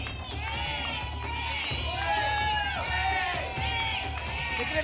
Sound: audience shouting letters

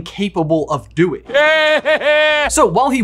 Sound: Voldemort laughs

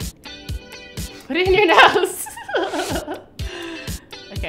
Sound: laughter

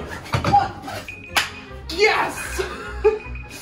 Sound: beeping

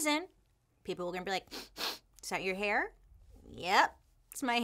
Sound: sniffs

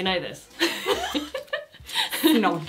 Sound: they both laugh

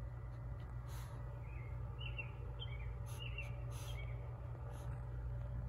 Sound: Francesca sniffing

